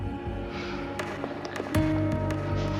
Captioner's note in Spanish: bofetada